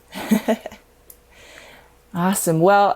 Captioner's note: laughing